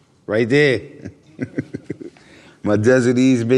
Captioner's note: laughs